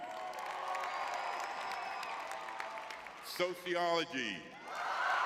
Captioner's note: audience cheering